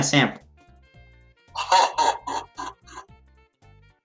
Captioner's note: Demonic voice Laughs